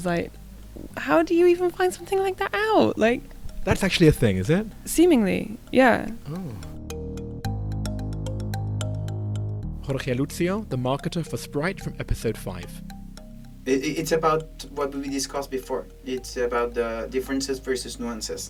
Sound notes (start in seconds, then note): 8.0 voiceover